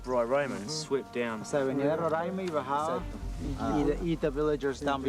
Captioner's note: speaking foreign language